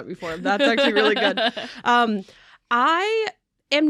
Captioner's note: laughs